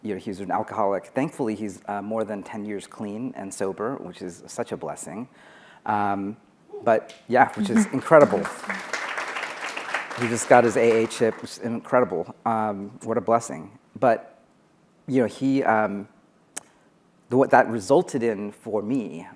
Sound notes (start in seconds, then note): 7.4 applause